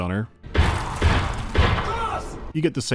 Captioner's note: pow-pow-pow